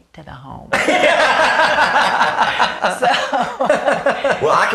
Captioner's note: laughing